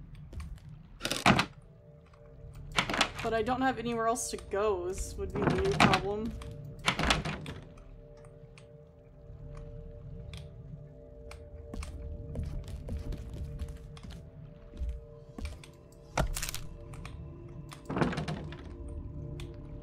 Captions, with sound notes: [Door Closes] But I don't have anywhere else to go would be the problem. [Door Rattles] [Wood Shakes / Cracks] [Door Rattles]